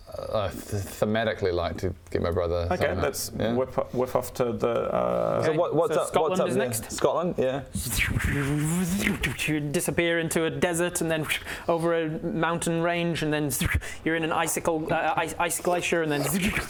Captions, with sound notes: thematically like to get my brother Okay, let's whiff off to the uhh - Okay so Skottlund is next? - So what's up there? Skottlund, yeah *zoomy noises* You disappear into a desert and them over a mountain range and then you're in an icicle ice glacier and then